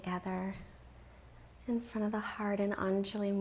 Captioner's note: none